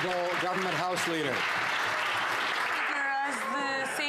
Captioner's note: some Applause